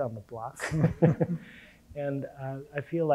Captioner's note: panel laughing